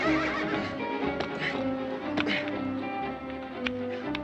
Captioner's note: horse whinnies; grunting